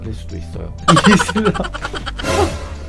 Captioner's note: laugh